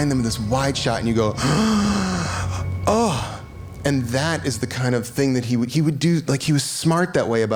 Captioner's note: gasps